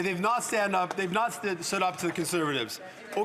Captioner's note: some Applause; speaking French